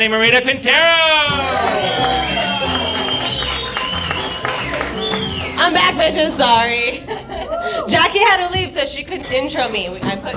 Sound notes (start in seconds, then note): 1.2 upbeat music; 1.2 audience applauding